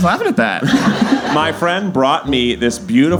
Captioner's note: laughing